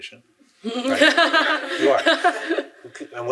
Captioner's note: laughing